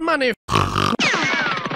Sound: french snort

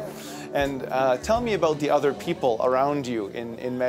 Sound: voiceover

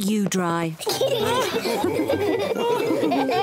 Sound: all laughing

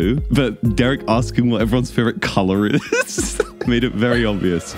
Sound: laughs

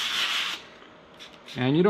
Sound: sanding noise

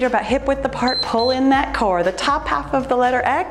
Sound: timer beeps

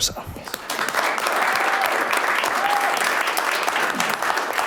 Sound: clapping

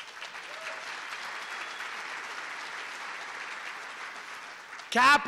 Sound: applause

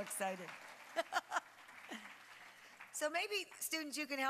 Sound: applause

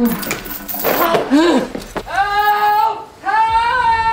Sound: heavy breathing

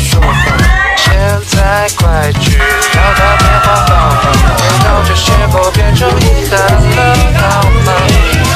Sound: cries

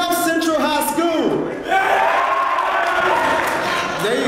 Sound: applause

